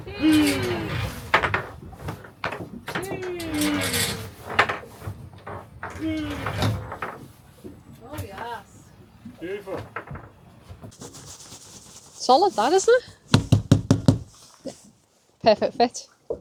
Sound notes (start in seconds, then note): 13.2 knocking